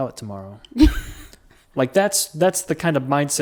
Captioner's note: laughs